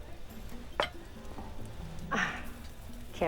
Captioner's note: scoffs